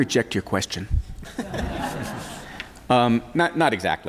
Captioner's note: laughter